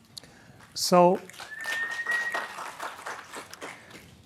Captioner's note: applause